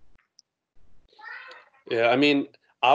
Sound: background chattering

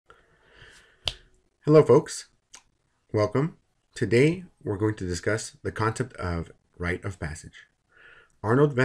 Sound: professor speaking

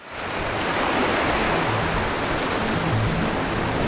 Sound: waves crashing

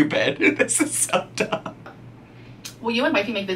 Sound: laughing

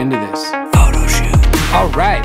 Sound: whispers

